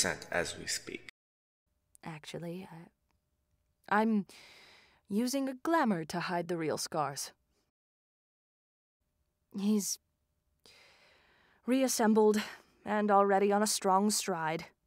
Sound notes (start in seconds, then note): 7.6 brief silence